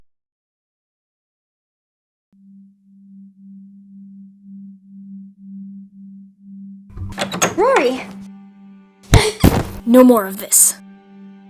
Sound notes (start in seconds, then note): 7.0 door opening; 9.1 Avila gasps